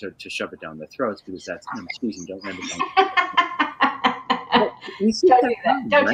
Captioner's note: laughing